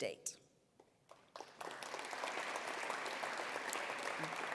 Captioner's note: applause